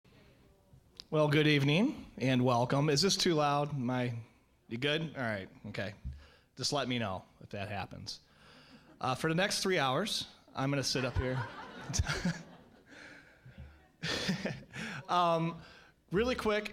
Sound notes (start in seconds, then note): 10.8 audience laughing